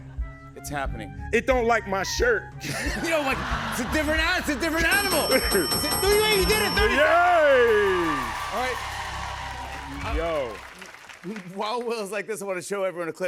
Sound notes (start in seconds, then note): 4.7 dinging; 6.3 cheers and applause